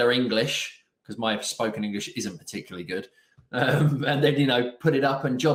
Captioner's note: laughing